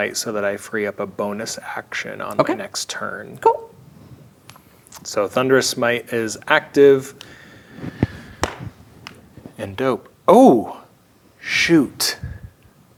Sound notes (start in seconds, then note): 8.3 slaps leg